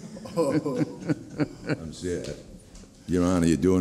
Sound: laughing

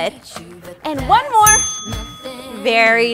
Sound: timer dings

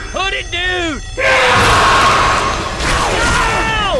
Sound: Hunter scream!

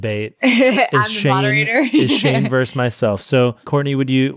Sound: laughs

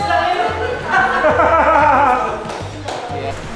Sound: laughs

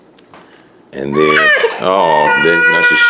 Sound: baby cries

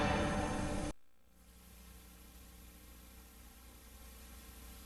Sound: VHS static

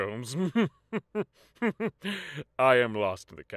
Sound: smug laughter

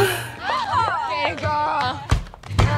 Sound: gasping

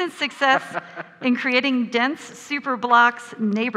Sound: laughs

